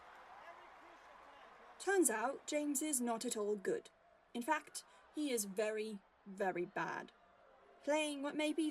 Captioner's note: crowd cheering in the background